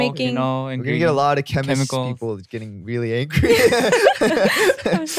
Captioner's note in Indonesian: tertawa